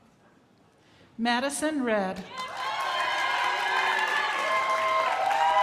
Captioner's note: crowd applauding